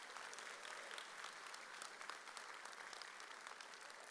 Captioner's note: audience applauds